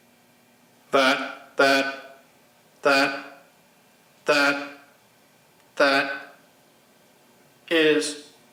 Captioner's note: robot voice